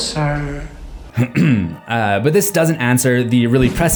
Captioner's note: clear throat